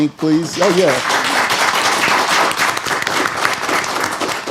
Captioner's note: applause